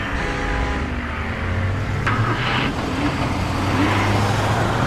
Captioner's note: car engine roaring